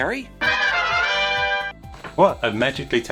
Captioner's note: logo warbles